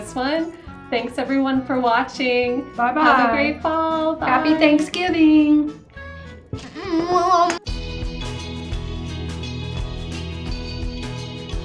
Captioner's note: silly noises